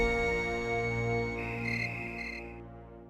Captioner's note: crickets chirping